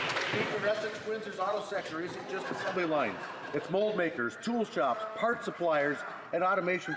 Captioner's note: some Applause